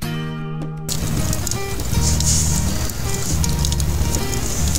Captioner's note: fire crackling